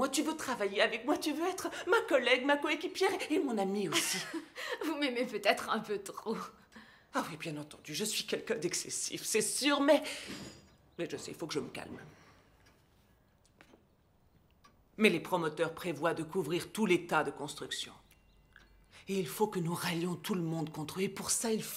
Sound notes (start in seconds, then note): 3.8 laughs